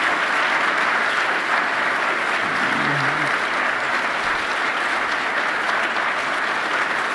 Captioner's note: applause